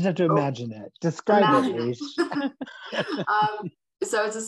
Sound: chuckles

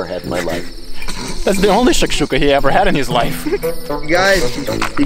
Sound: snickering

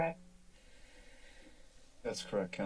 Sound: inhales

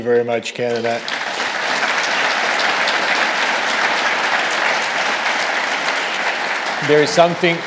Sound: audience applauding

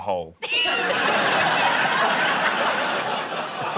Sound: laughter

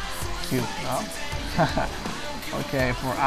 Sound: laughing

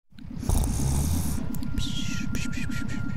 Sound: snoring

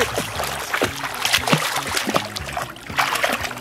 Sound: splashing

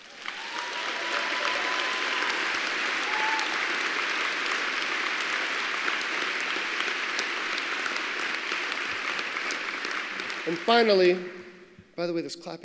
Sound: applause

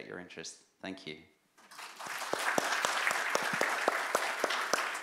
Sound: applause

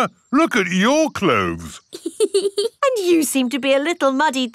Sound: laughs

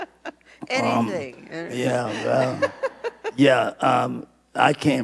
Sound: laughing

